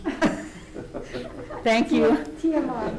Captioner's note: all chuckling